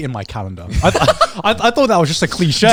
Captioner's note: laughing